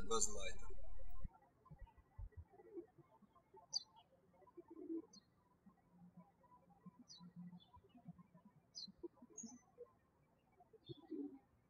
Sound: birds chirping

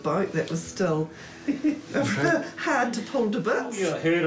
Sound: chuckles

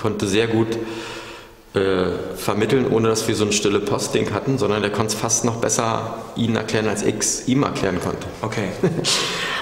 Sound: laughs

